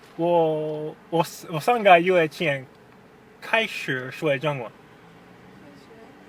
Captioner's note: mandarin